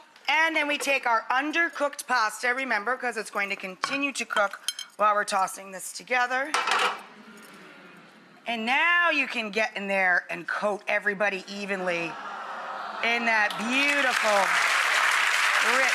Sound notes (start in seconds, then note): 12.0 audience awes; 13.4 audience applauds